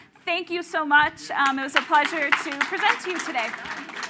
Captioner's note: applause